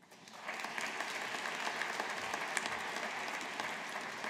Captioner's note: audience applauding